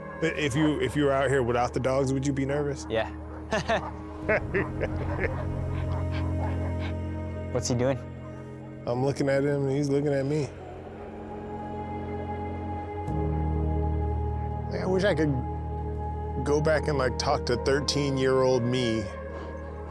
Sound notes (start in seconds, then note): 3.2 laughing; 5.6 dogs barking